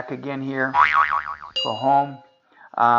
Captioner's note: spring springing